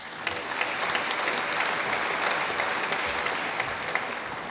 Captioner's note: applause